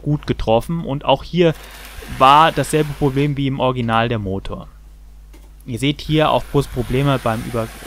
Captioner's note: the engine